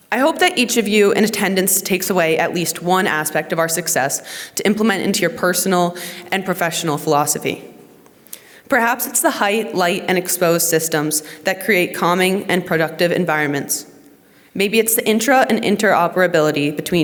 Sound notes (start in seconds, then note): none